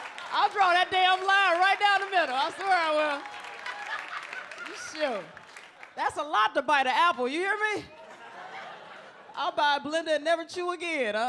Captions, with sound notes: I'll draw that damn line right down the middle. I swear I will. (audience laughs) That's a lot to bite the apple. You hear me? I'll buy a blender and never chew again.